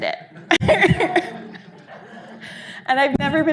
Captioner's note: audience laughing